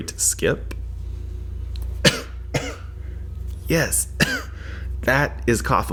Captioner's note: cough